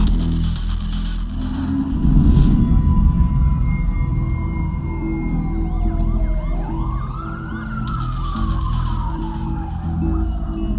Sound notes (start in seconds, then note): 2.3 sirens